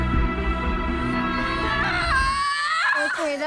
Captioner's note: screaming